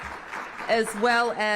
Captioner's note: applause